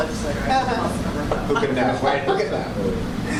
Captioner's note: laughter